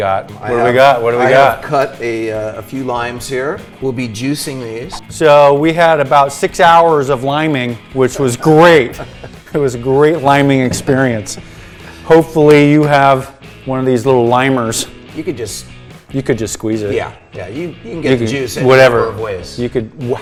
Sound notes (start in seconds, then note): 8.7 laughing